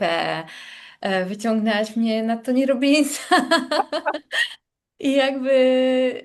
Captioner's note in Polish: śmiech